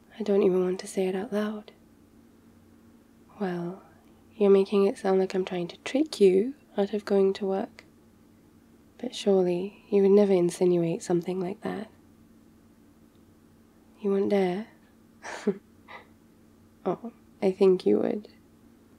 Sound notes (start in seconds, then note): 15.6 laughs